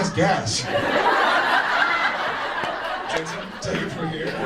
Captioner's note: audience laughs